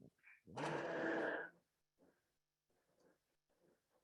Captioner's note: blender whirring